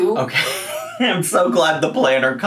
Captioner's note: laughs